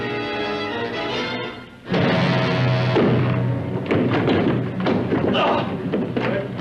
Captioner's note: gasping